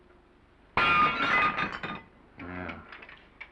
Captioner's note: plate shatters